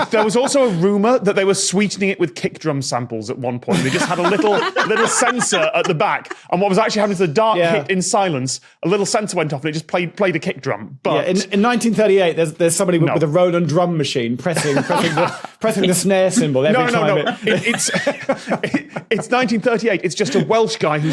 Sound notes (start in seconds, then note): 18.0 both laugh